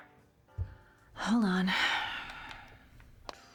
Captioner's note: sighs